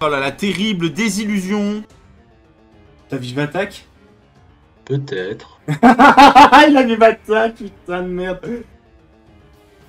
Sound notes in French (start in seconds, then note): 5.6 Rire